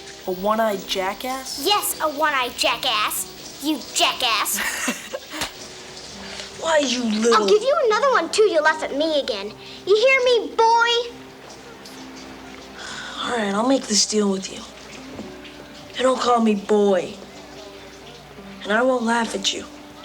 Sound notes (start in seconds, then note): 4.6 Ned chuckles; 5.4 hand slaps; 12.8 sighs